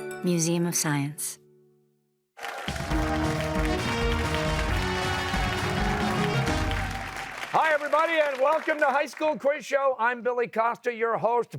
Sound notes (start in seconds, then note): 2.4 cheers and applause